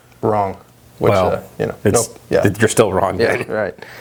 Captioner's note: laughing